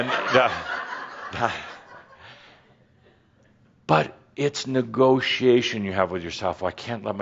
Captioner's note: more laughter